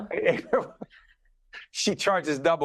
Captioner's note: laughing